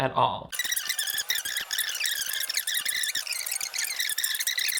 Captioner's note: fast-forward squeakings